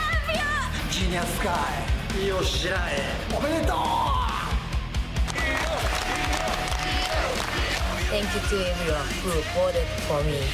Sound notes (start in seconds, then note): 4.2 speaking in foreign language